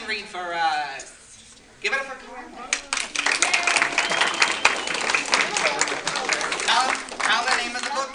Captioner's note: applause